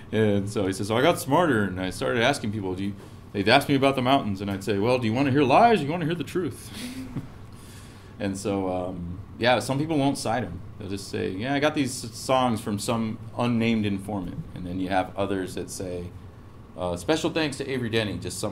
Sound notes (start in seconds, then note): 6.8 laugh